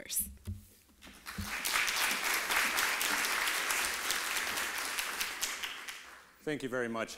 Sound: applause

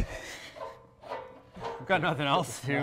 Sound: chuckles

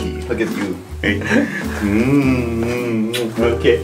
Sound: smooches

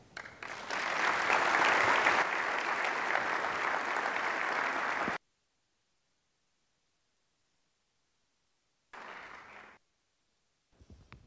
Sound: applause

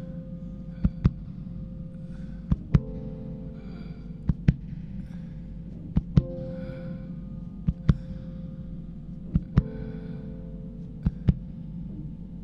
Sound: heartbeat; heartbeat and shuddered breathing

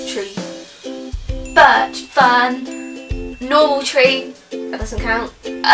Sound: ding

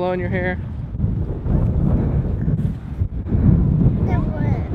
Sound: wind noise

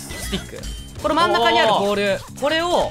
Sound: woah x3

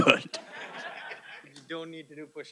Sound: audience laughing

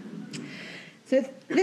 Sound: audience chuckles

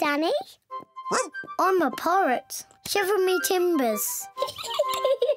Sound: barks; oinks; giggles

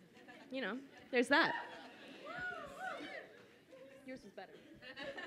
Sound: audience cheers

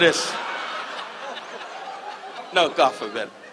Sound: audience laughs

